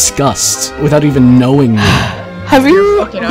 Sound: sigh

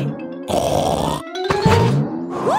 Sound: snorts

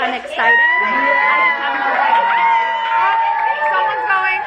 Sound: screaming

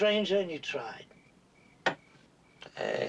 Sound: door closes

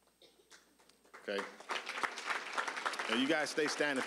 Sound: applause

